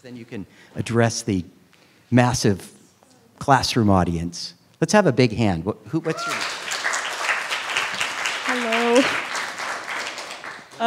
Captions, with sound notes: then you can address the massive classroom audience. Let's have a big hand. (students clapping) What's your name? - Hello.